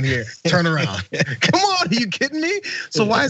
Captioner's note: laugh